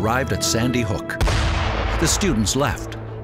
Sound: cannon

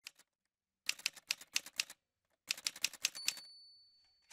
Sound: typewriter sounds

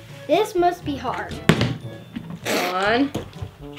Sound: bottle landing

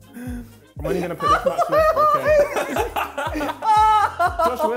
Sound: laughing

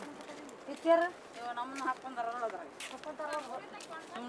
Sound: in foreign language

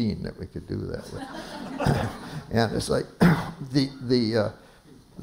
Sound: laughter

